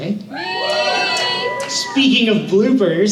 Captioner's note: audience cheers